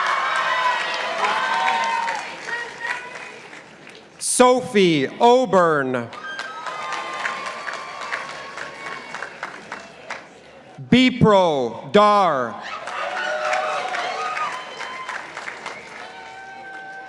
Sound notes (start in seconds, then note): 0.0 participants applauding; 6.1 participants applauding; 12.6 participants applauding